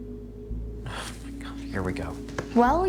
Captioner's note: sighs